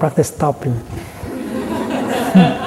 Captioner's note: laughter